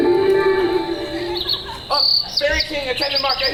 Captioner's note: birds chirping